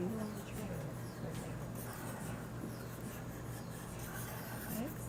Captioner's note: pen scribbling